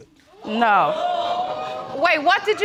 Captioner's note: audience gasping